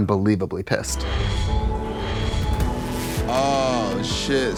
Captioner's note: alarm blasting